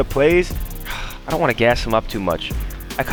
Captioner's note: sighs